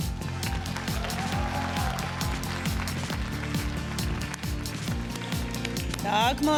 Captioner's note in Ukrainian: оплески